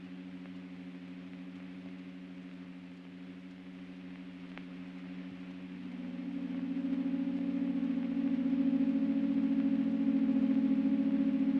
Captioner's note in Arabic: أصوات الطنين